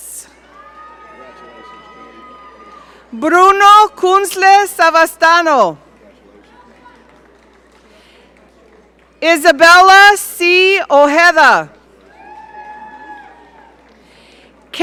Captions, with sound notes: (audience cheering) Bruno Kunzle Savastano (audience applaud) Isabella C. Ojeda (audience cheering)